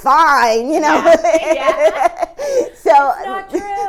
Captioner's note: laughing